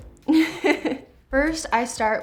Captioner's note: laughs